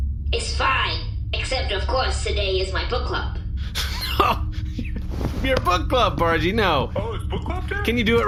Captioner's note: laughing